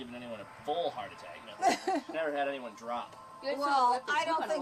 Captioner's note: laughs